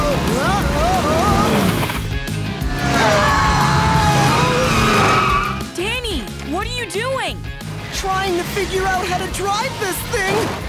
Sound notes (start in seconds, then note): 2.7 screaming